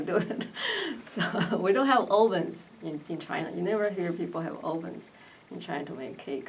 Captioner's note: laughs